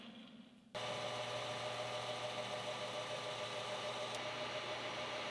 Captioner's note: machine whirring